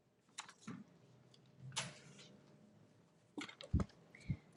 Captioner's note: none